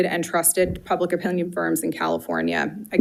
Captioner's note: none